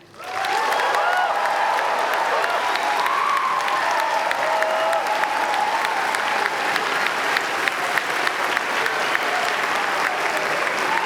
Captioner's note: applause